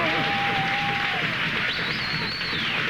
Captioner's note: cheering and whistling